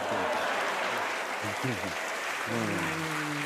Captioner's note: applause